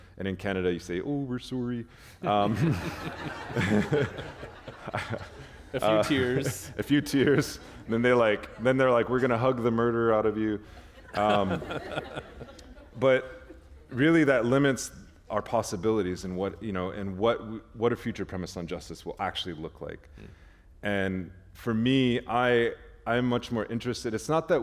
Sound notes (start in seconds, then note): 4.3 laughter; 12.3 chuckle